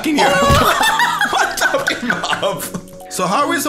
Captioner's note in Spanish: risas